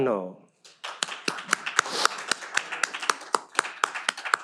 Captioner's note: all applaud